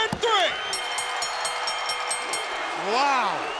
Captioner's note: crowd cheering; bell ringing